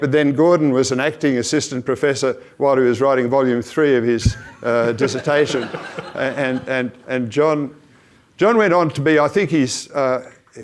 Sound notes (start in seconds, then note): 4.3 audience laughs